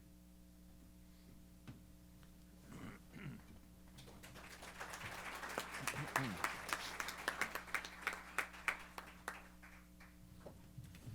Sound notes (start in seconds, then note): 3.9 applause